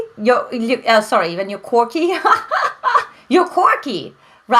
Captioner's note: laughs